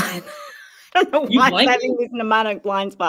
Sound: laughs

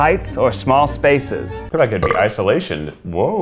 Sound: burps

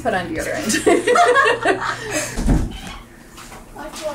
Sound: laughing

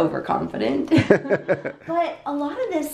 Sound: laugh

